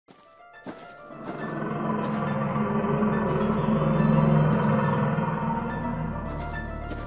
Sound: dark Abyss yawning

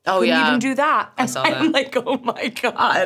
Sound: laughs

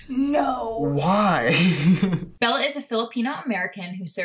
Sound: chuckles

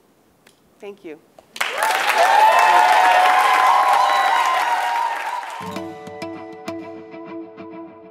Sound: applause

